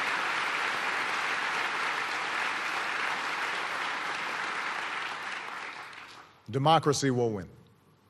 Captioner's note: applause